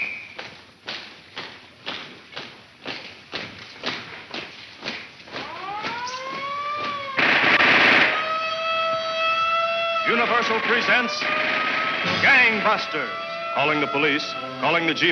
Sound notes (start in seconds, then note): 0.0 whistle blowing; 0.0 feet stomping; 6.1 siren blaring; 7.1 gun firing